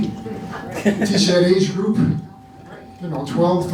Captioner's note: laughing